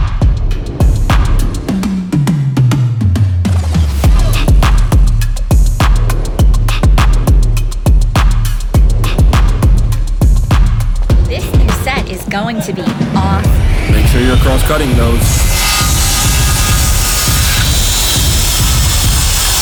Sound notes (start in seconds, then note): 0.0 techno music; 16.1 saw cutting